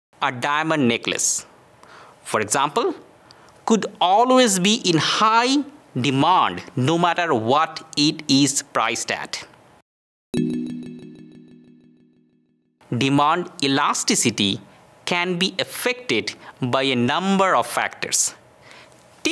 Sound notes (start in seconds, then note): 10.4 text chiming